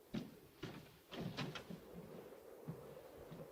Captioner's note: Sir Humphrey's footsteps; door opens; wind blowing